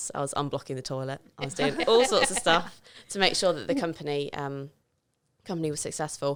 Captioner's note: laughing